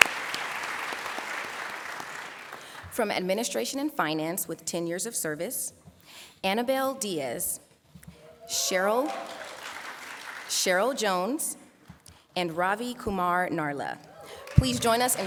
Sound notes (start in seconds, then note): 4.4 applause